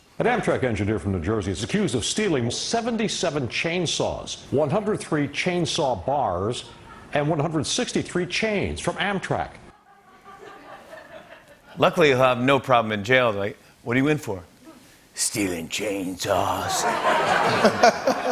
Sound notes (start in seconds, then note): 9.7 laughter; 16.6 laughter